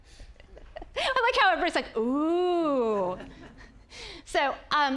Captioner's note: audience laughing; audience laughing